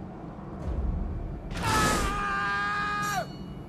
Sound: Cesare screams

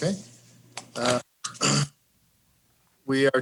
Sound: clearing throat

